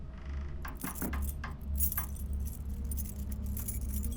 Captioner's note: keys jingling